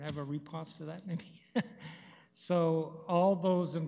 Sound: chuckles

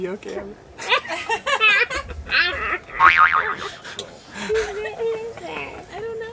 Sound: both laugh; spring boings

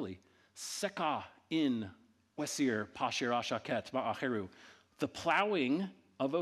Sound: speaking in ancient Egyptian

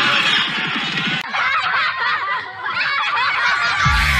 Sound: contestants laughing and cheering

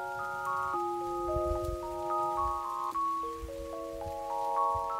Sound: trudging

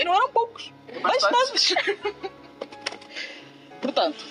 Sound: laughs

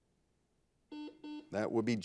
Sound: buzzer buzzes

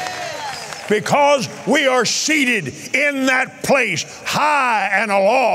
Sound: audience cheering

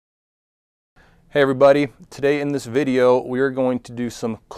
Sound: voiceover

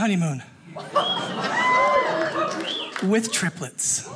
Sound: audience cheers

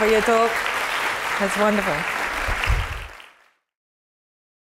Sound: applause

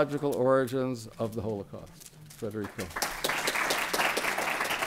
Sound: applause

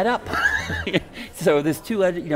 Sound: laughing

